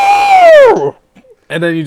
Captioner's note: screaming